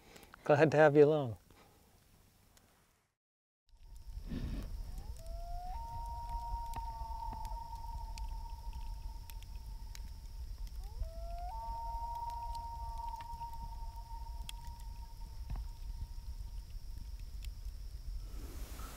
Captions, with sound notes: Glad to have you along! [loons calling and echoing in the distance]